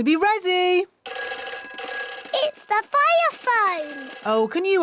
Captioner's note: phone rings